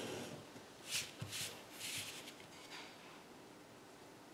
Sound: paper shifting

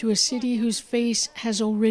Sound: speaking Foreign Language

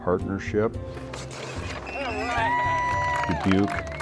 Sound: crowd cheering and applauding

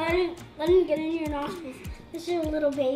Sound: speaks off mic

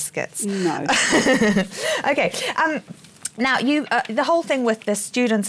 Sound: laughing

